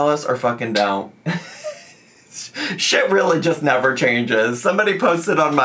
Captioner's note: laughs